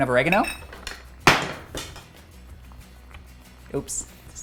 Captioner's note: utensil dropping